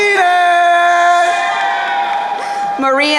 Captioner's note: crowd cheering